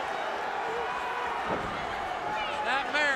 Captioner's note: crowd cheering